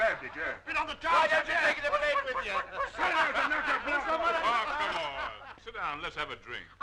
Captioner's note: Spike and patrons yelling